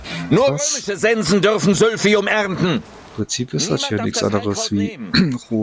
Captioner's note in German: räuspern